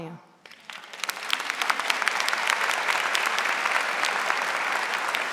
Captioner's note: audience applauding